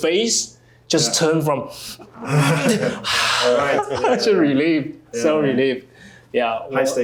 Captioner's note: sighs